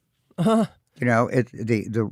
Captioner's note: chuckles